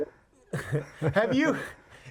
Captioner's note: duo chuckles